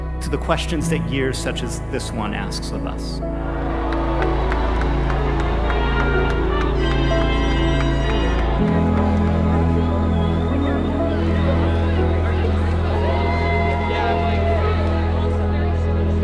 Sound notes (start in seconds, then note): 4.0 cheering; 7.6 uplifting music